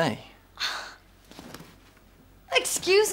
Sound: scoffs

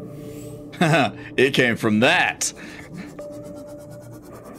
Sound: laughing

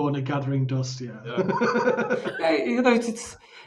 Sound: laughs

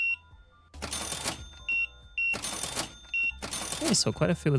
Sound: beeping

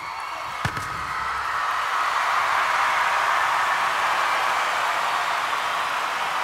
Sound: audience cheers and applauds

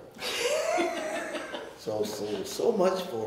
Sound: laughing

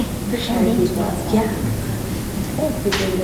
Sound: murmuring

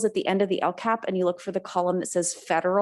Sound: none

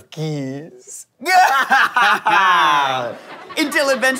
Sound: both laugh

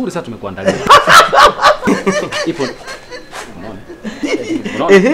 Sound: laughs

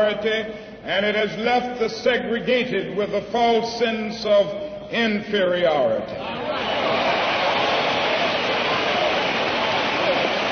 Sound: applause

